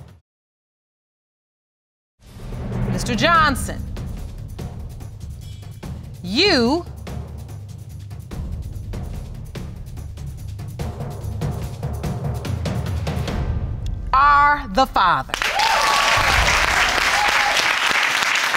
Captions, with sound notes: Mr. Johnson, you... are the father. (AUDIENCE APPLAUDING)